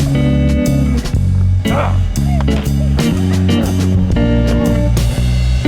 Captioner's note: car screeching; grunting